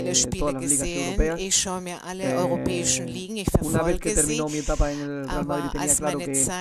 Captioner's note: coughs